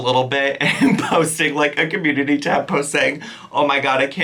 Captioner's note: chuckling